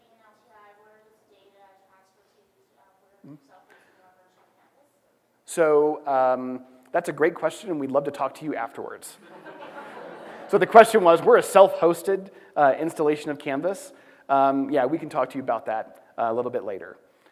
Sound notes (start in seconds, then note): 9.2 laughter